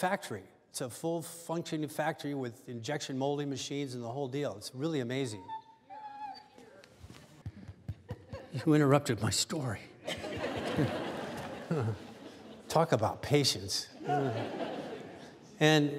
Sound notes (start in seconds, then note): 5.3 dog whining